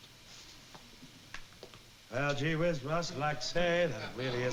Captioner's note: impersonating bing crosby